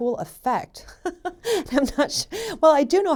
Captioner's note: laughs